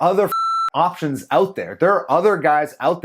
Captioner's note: beep